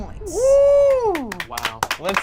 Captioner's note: cheers; group applauds